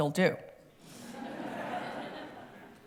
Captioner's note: laughter